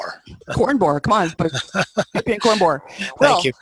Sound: laughing

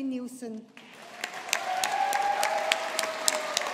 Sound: audience applauding

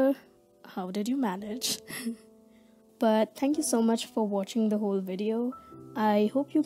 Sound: laughs

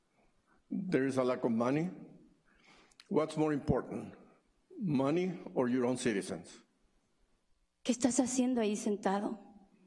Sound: speaking spanish

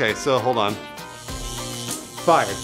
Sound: electronic buzzing

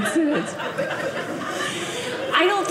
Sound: audience laughing

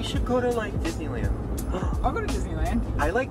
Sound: gasps

